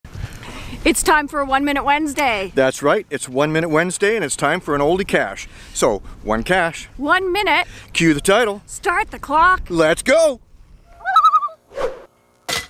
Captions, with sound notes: It's time for a One Minute Wednesday. -That's right it's One Minute Wednesday It's time for an Oldie Cache. So one cache. -One minute. -Cue the title. -Start the clock. -Let's go! [loon call]